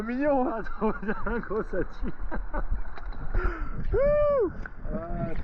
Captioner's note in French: rires